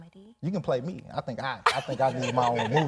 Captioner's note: laughing